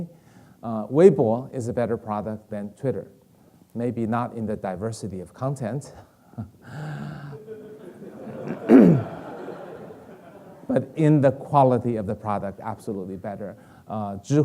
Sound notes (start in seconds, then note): 7.0 Kai-Fu chuckling; 7.2 audience laughing